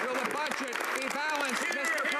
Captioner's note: some Applause